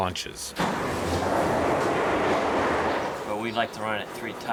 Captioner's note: train cars clack